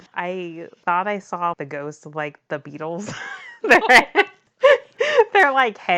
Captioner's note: laughs